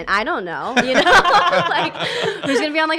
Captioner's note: laughs